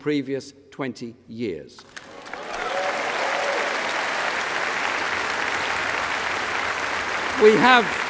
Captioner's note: applause